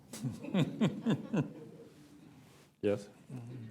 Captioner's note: laughter